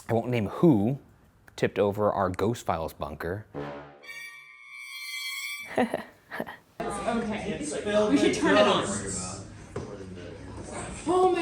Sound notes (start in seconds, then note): 3.5 dramatic music; 5.6 chuckles